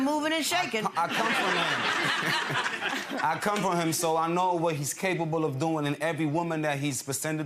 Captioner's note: laughs